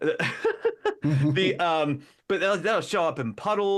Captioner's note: laughing